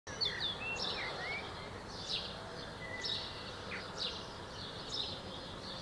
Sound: nature sounds

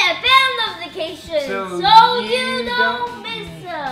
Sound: in Unison

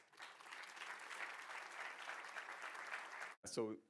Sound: audience clapping

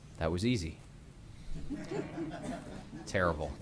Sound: laughter

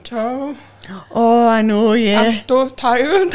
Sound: gasps; laughs

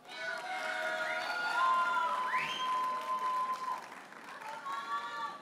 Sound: audience hollers and applauds

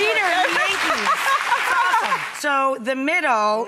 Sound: audience applauds

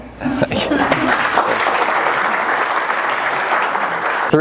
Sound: crowd laughs; crowd applauds

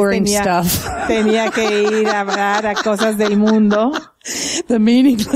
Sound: laughter

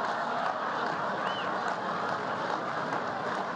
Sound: laughter

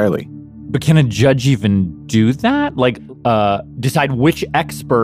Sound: none

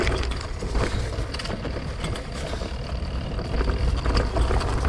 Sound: gear clicks

